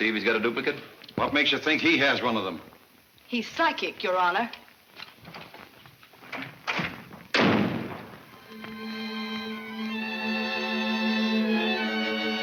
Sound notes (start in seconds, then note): 6.6 door slams; 8.4 dramatic music